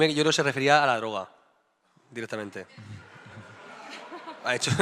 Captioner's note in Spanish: risillas